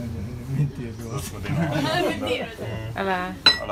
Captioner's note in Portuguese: risos